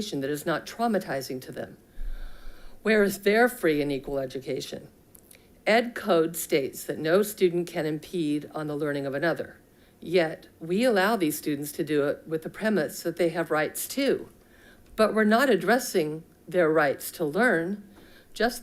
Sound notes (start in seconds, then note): none